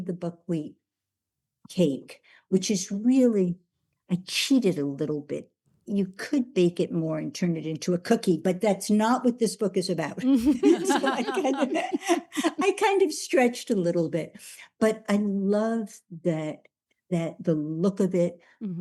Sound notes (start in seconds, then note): 10.3 laughing